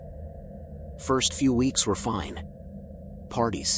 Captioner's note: serious tone